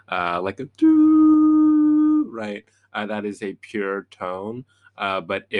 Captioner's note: humming